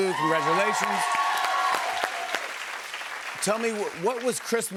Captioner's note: cheers and applause